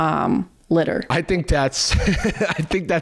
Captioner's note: laughs